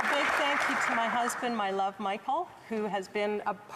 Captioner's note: applause